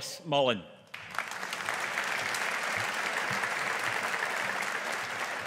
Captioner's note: audience applauding